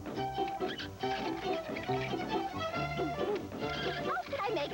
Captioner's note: sqaking